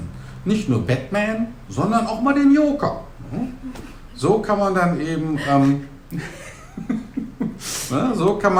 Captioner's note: laugh